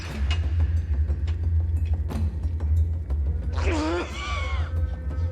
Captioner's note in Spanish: Estruendo